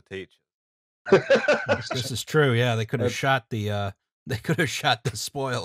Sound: laughter

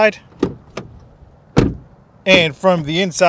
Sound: car door slamming

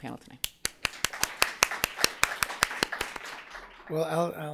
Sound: audience applauses

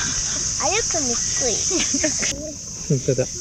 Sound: baby talk

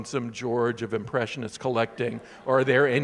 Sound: audience laughing

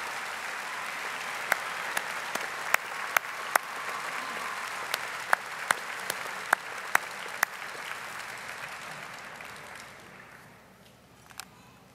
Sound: audience applauding

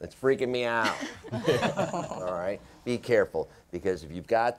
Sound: laughter

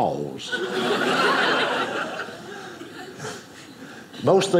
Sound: audience laughing

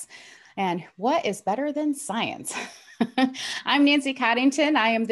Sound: laughs

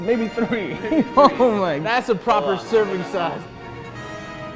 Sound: laughs; triumphant music

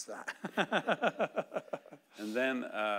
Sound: laughing

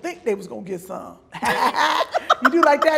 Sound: laughing loudly

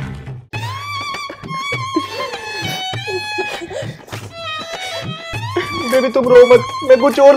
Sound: crying

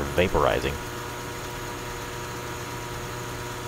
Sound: transformer humming continues

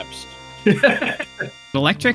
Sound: laughter

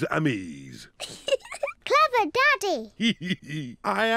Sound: giggles; giggles

